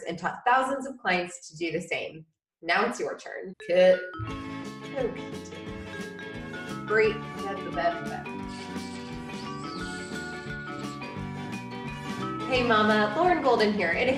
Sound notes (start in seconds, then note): 3.9 quirky music; 8.1 lip noises